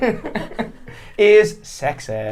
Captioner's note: laughing